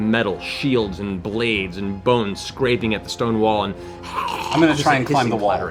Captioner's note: skeletal hissing